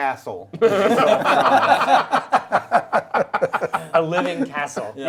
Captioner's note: group laughs